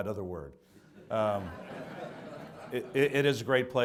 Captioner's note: audience laughs